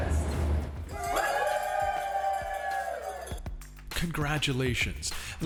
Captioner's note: crowd cheers